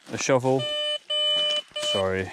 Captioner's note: metal detector beeping